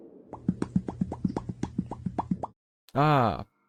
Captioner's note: Popcat meme sounds